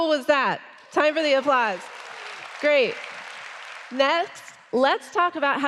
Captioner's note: applause